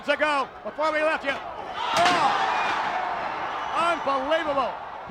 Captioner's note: crowd shrieking